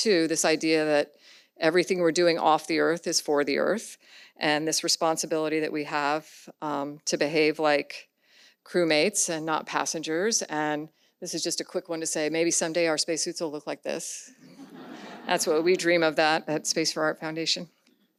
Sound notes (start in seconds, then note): 14.4 audience laughs